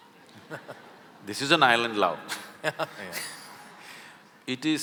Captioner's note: laughter; laughter